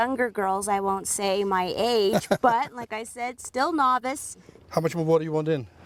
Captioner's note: laughs